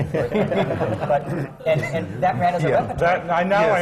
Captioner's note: laughter